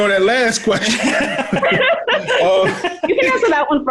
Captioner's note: all laughing